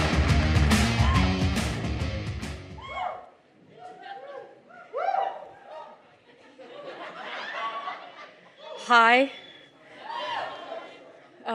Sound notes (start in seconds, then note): 3.1 crowd cheers individually; 5.3 crowd laughs